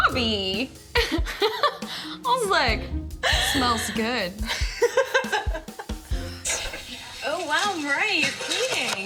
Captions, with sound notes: I was like, smells good. [LAUGHS] Oh, wow, Moriah, you're cleaning.